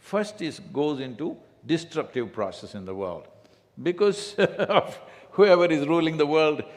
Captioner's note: laughs